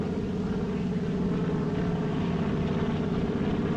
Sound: airplane Approaching

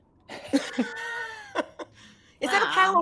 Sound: laughter

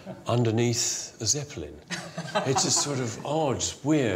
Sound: chuckles

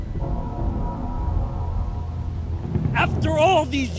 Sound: rain pattering

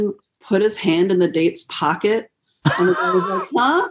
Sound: laughter

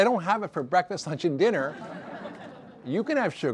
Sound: audience laughter

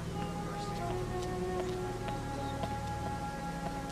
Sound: footsteps

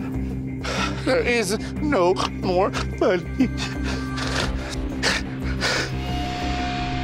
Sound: sobbing

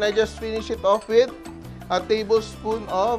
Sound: clink

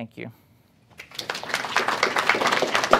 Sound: applause

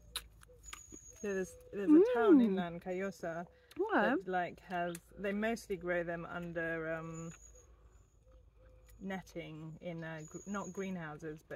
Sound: mmm

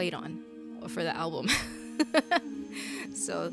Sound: laughs

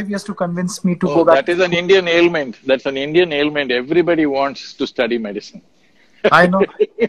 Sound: laughs

